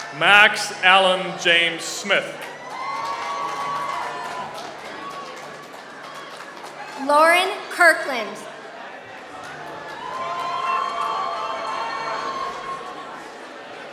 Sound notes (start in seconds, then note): 5.1 applause